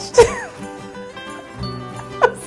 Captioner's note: laughter